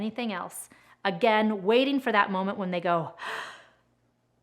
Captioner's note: breathes